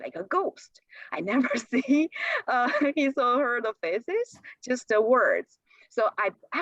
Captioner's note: laughter